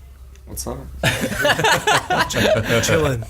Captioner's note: laughing